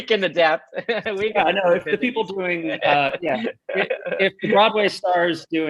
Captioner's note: chuckles